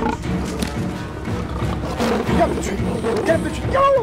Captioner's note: Roaring Continues